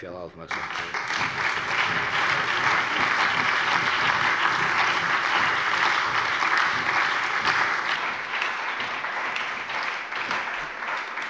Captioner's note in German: Allgemeiner Beifall